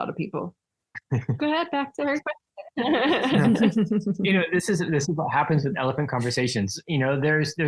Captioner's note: everyone laughing